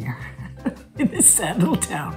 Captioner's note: Catherine laughs